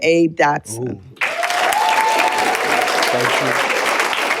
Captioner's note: cheers and applause